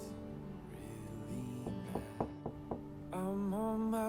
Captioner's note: knocking